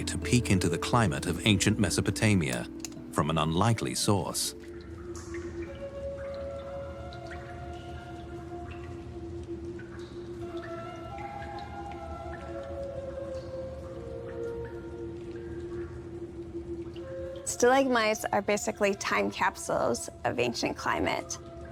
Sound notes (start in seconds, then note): 6.9 water drips